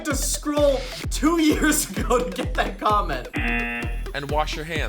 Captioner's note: laughs; buzzer